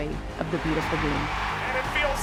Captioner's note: crowd roaring